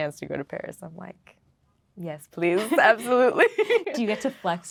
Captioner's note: laughing